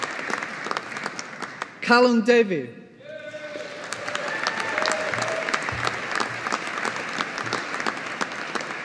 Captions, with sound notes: Calum Davie. (AUDIENCE APPLAUDING)